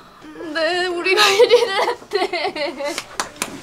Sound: sobbing

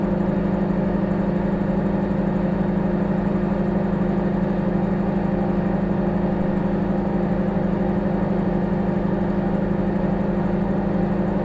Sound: microwave humming

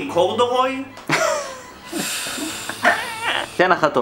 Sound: laughing in the background

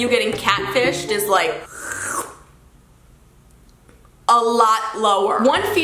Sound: sluuuuuppp

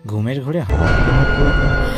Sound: werewolf voice

